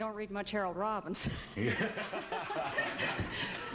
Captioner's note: laughing